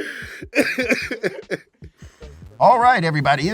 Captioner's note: laughing; voice actor coughing